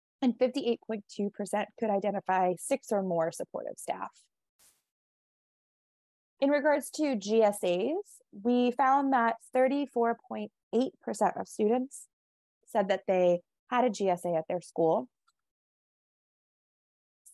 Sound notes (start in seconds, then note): none